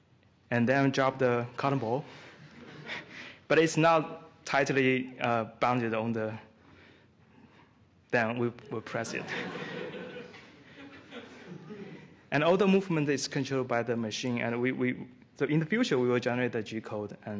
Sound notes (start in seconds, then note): 9.0 laughter